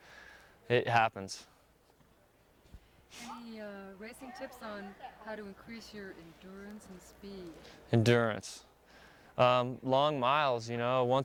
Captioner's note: laughs